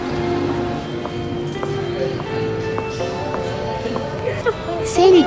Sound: heal clanking

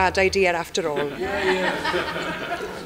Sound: laughter

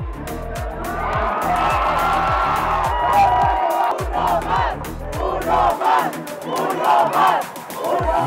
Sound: crowd cheers

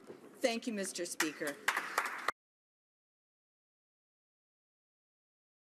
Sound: listeners applaud

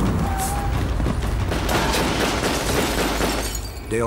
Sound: gunfire

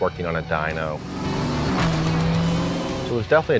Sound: car engine revving

